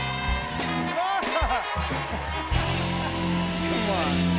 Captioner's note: laughs